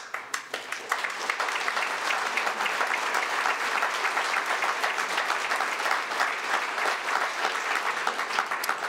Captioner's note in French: Applaudissements